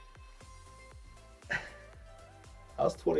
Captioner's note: sighs